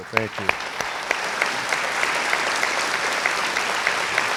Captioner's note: crowd applauds